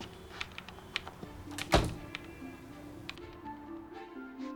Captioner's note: door closes